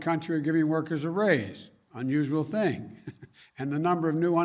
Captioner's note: laughs